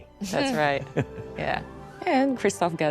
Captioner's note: chuckles